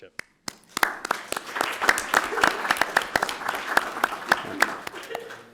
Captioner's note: audience applauding